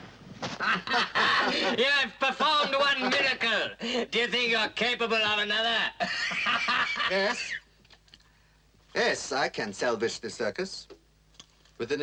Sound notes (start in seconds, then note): 0.5 men laughing; 6.0 laughs